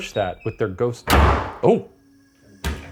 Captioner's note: door slams